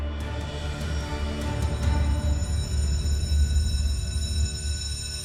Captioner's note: school bell rings